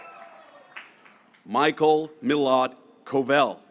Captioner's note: graduates cheering